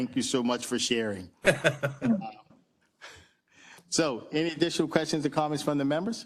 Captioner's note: laugh